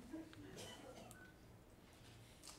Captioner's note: laughing